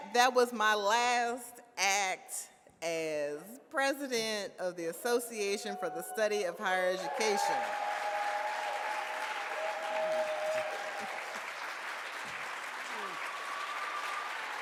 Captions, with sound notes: That was my last act, as President, of the Association for the Study of Higher Education. (audience applauds)